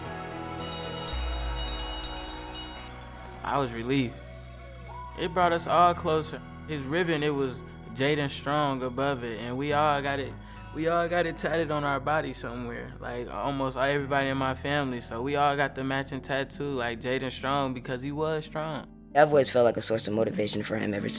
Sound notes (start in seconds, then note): 0.6 bell rings